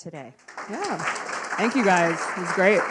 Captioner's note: audience claps